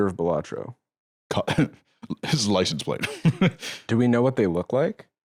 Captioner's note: laughs